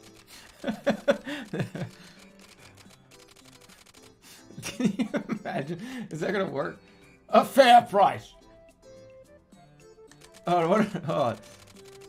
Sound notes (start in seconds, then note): 0.4 laughing; 4.6 giggling